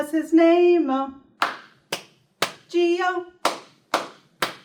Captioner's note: clap